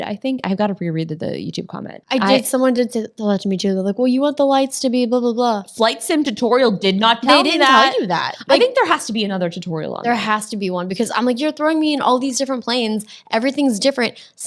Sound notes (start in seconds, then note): none